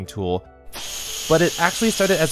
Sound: ketchup squirting continues; ketchup squirting noises

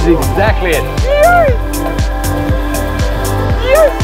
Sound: whooping

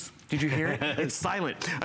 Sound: laughter

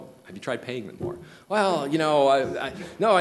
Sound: stammering

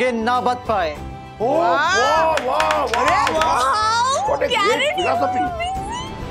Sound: cheering

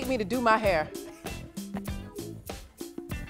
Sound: laughs

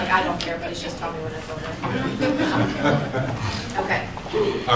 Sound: laughter

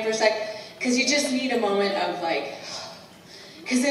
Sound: exhale

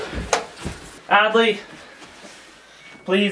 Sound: none

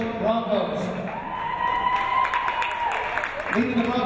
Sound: cheering

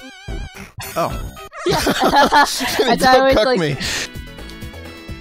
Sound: laughs

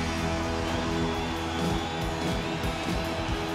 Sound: crowd cheering

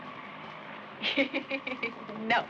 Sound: Gwyneth laughing

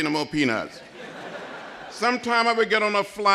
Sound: laughter

